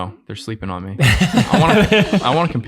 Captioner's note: all laughing